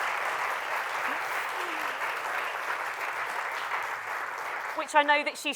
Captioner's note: applause